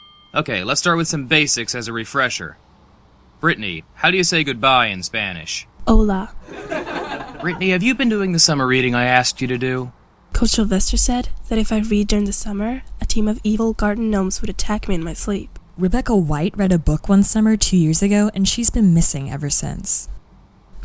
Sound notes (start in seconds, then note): 6.4 class laughter